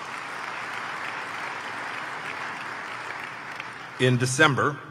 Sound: applause

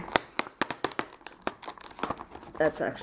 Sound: more unboxing noises

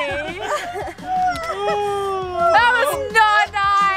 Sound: laughing

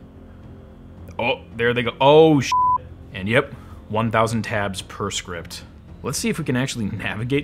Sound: beep

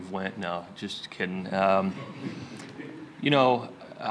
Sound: laughter

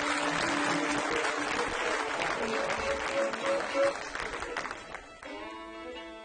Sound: cheers and applause

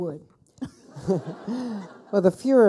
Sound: people laughing

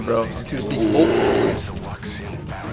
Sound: bear growls

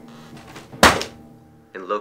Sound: folder slapping

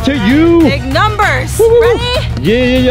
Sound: cheering loudly

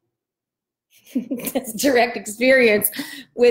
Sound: laughs

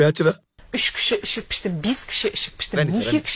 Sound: Chinese language in TV

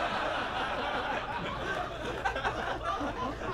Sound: audience laughs

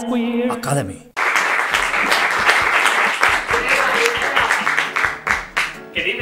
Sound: applause

